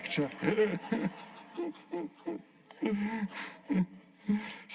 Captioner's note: laughter